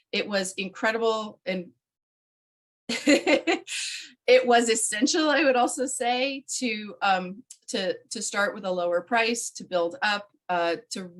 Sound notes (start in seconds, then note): 2.9 laughing